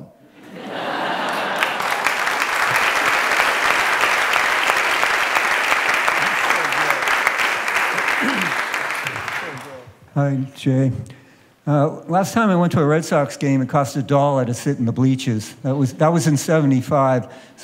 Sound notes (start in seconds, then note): 0.3 laughter; 2.8 applause